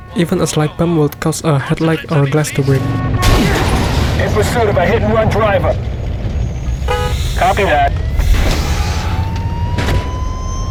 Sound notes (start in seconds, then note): 6.6 inhale; 8.0 exhale